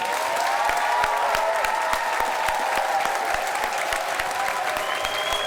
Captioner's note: applause